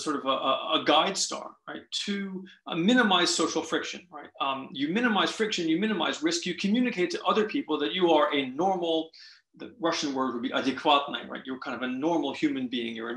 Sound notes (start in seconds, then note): 10.8 russian